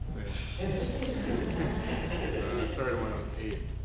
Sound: audience laughing

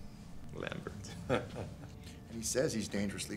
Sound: chuckles

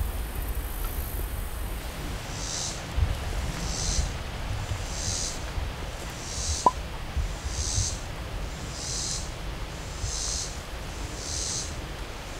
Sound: wind blowing

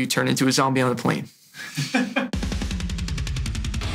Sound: man chuckles; rock music

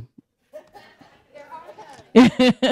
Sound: audience applauding

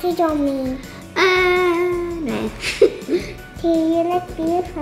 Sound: chuckles

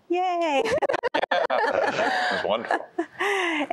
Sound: laughter

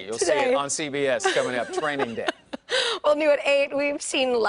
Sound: laughing

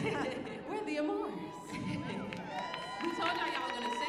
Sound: audience cheering

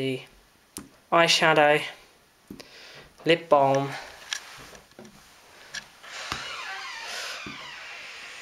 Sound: door opens

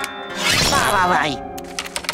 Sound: groaning

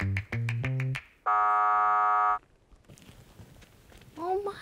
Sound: buzzer sounds

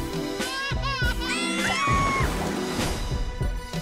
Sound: cries; screams; meows

